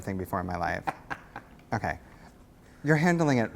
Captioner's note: laughs